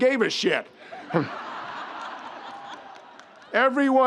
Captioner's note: audience laughs